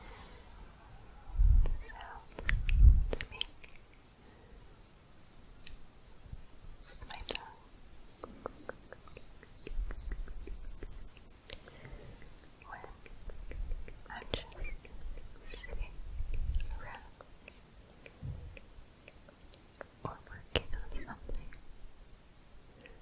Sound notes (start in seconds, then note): 3.2 stroking bristles; 8.5 tongue clicking; 19.0 tongue clicking